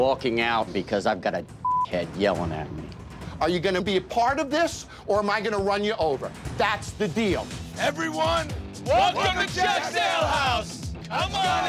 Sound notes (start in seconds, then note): 1.6 beep; 11.2 cheering